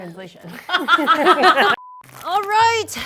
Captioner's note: group laughs